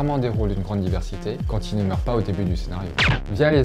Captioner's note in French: bruit de balle